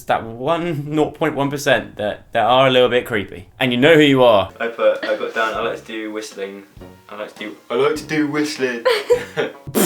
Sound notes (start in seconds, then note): 6.5 sarcastically; 8.8 laugh; 9.6 blows raspberry